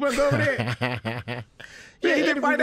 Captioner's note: laughs